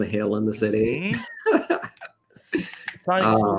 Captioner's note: laughter